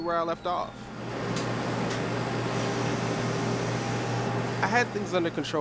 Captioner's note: machine sounds